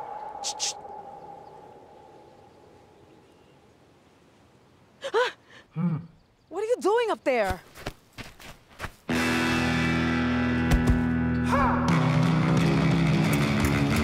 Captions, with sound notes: Psst, psst. [Elemere gasps] What are you doing up there? [rock music]